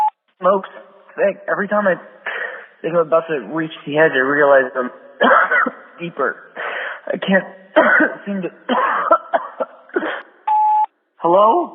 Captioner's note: phone message; coughs; sfx: beep, new message; phone message